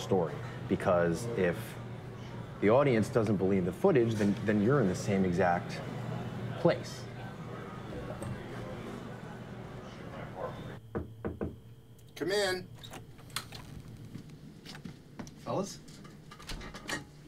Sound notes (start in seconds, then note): 10.8 door knocking